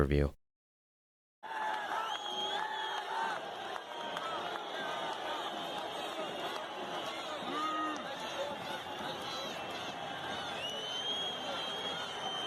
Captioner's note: crowd Cheering